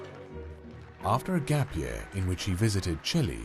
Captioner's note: voiceover